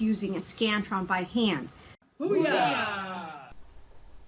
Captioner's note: team saying "boo yah" enthusiastically